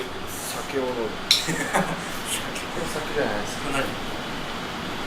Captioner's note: laughs